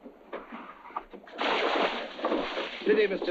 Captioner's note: water splashing